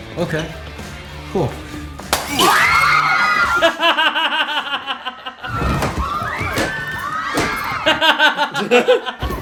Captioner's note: women screaming; laughter